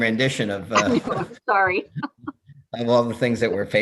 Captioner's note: laughs